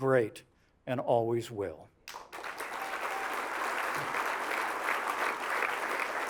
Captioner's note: applause